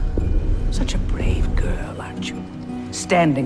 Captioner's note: voiceover